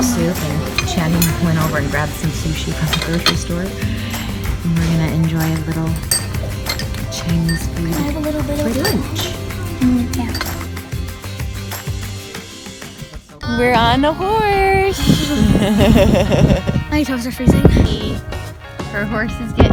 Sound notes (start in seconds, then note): 10.0 upbeat music; 14.8 laughing